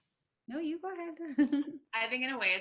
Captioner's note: chuckles